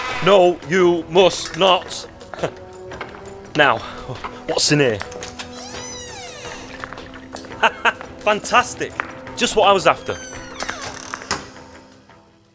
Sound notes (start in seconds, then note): 5.1 door opens; 10.0 door shuts